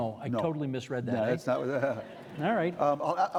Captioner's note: audience laughing; chuckling